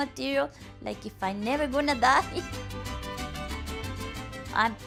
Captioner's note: laughing